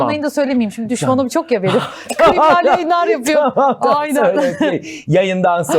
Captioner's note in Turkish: kahkaha